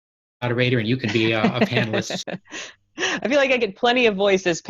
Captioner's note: all laughing